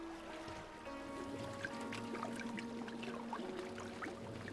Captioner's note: water trickling